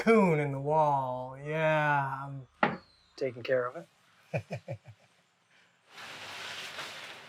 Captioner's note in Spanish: risas